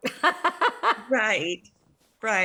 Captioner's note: laughs